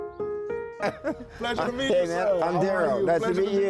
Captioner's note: chuckling